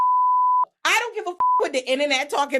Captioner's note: beep